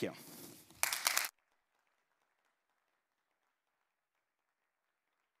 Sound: applause

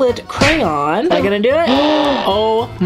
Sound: murmurs

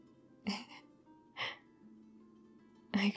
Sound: laughs

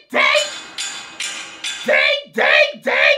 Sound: pipe banging continues

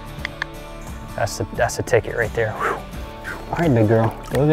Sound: clicks tongue; exhales sharply

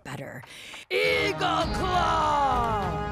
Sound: deepens voice

